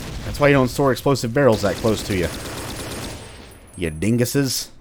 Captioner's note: M16 firing